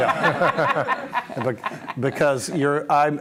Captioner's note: laughter